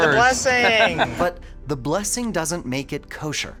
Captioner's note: person laughs